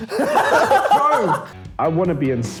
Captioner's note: laughs